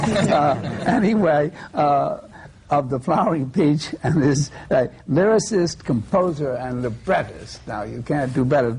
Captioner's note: laughter